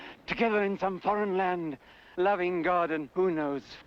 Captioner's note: none